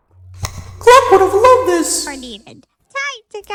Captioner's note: echoing